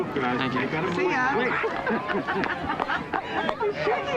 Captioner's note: laughs